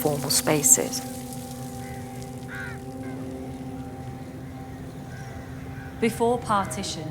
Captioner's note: water splashing; birds crowing